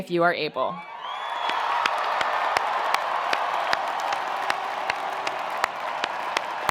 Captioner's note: attendees cheering; attendees applauding